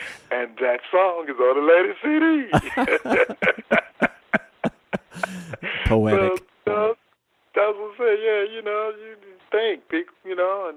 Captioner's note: laughter